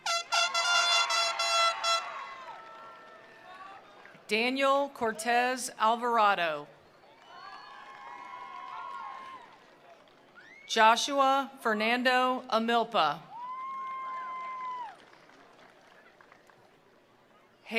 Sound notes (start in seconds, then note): 0.1 attendees cheering; 1.1 attendees applauding; 7.1 attendees cheering; 7.1 attendees applauding; 13.3 attendees cheering; 13.4 attendees applauding